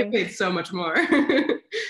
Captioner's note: laughs